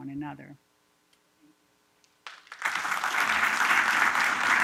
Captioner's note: applause